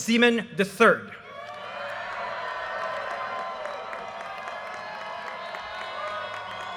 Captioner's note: audience cheers and applause